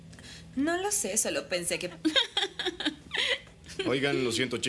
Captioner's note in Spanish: mulher rindo